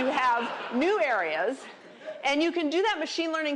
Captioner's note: laughter